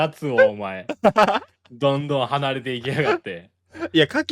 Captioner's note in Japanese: 笑い